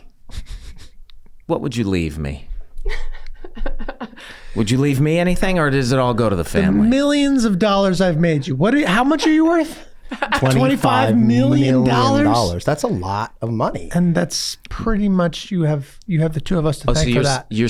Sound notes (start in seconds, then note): 0.2 Charlie chuckling; 2.8 laughs; 17.1 laughs